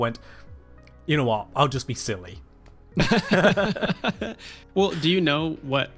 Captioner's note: both laugh